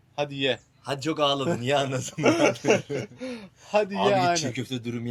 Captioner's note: laughter